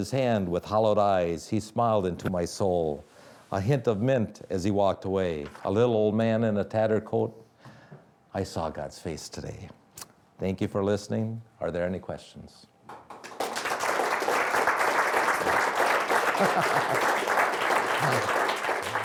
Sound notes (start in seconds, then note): 12.9 audience applauding; 16.2 laughing